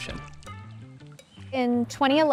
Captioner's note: upbeat music continues; bird twittering